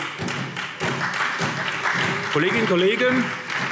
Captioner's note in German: Beifall SPD